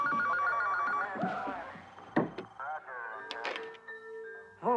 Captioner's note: phones ringing; television chatter continues